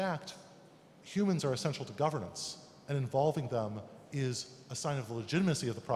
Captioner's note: German interpretation blocking English speech